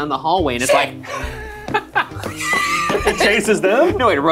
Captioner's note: both laughing